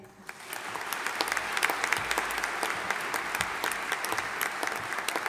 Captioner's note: audience applauding